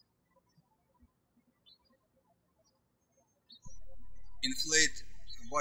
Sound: birds chirping

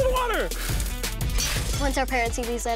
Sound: glass crashing

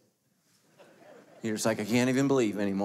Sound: crowd laughs

